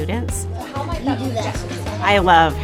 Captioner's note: students chattering